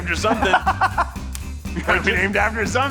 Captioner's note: laughing